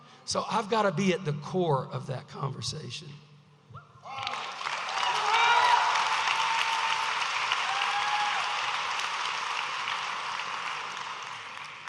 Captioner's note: audience applauding